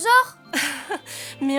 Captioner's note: chuckles